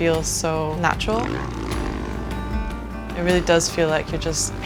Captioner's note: bike revving